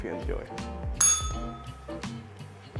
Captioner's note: bell rings